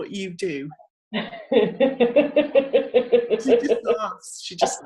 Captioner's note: laughing